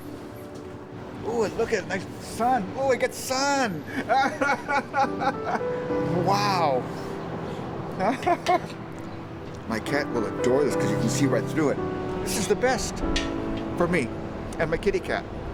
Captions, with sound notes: Ooh, and look at it, nice sun, ooh, it gets sun. (laughs) Wow. (chuckles) My cat will adore this, 'cause you can see right through it. This is the best, for me, and my kitty cat.